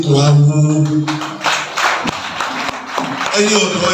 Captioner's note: a round of applause